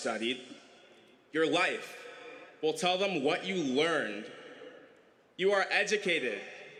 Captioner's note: none